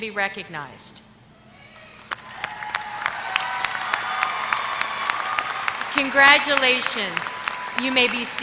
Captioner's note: applause